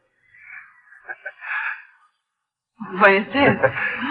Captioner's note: laughs